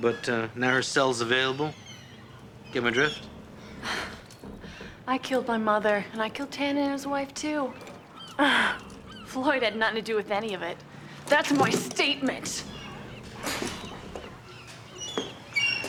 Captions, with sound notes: Used to be on death row, but, uh, now her cell's available. Get my drift? I killed my mother, and I killed Tannen and his wife, too. (chuckles) Floyd had nothing to do with any of it. That's my statement!